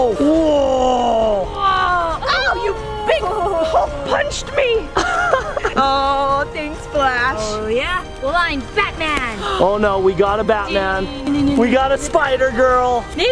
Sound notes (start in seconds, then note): 4.9 laughs